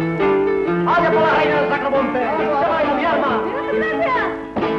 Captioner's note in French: langue étrangère